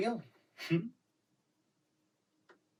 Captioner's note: chuckles wryly